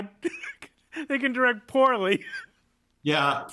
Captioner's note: laughing; laughs